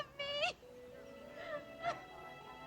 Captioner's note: sobbing